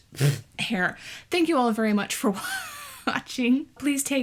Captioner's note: laughs